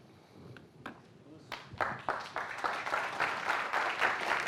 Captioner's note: clapping